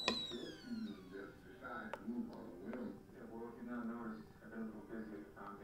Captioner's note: TV plays in background